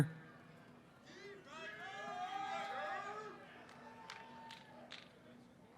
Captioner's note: cheering